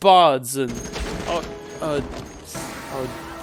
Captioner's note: stammering